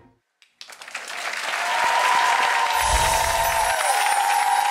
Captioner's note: clapping and cheering